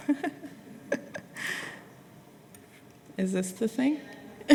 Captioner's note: laughter